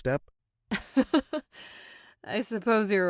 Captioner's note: laughs